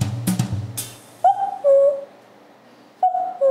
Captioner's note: cuckoo